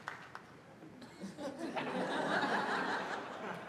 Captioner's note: laughter